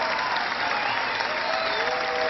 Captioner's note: cheering